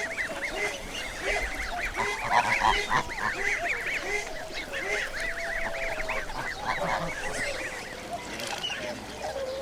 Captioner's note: birds chirping